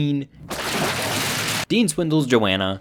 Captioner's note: water splashes